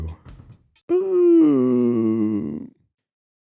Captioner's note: groan